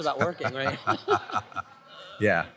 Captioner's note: laughter